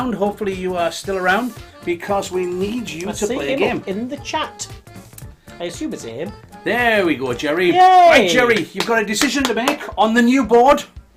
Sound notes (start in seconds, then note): 7.8 cheering